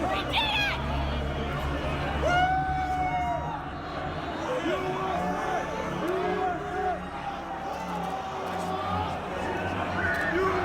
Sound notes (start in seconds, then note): 1.9 cheering and chanting